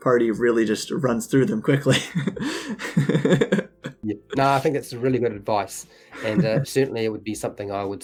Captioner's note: laughs